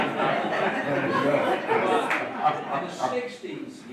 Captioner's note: laughing